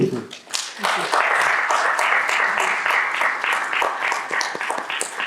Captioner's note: audience applauds